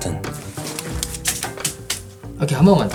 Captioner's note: chop chop chop